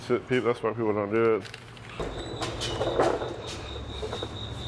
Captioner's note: cicadas chirping